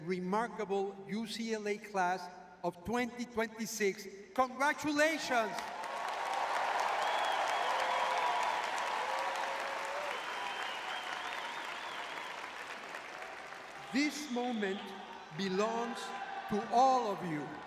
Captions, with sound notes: remarkable UCLA class of 2026. Congratulations. [cheering] [applause] This moment belongs to all of you,